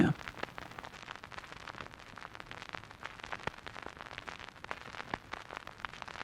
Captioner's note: record static crackling